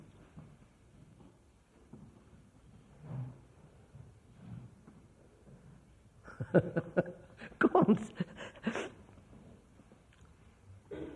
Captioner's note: laughs